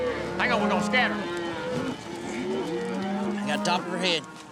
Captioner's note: mooing